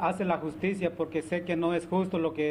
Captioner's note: speaking spanish